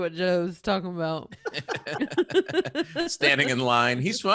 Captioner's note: laughing